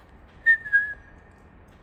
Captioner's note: whistle